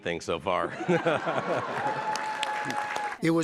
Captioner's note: laughter